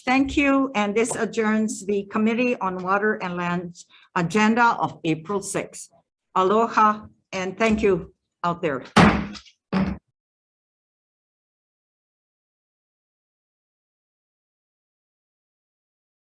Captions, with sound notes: Thank you and this adjourns, the committee on Water and Lands agenda of April 6th, Aloha and thank you out there. (bhang sound)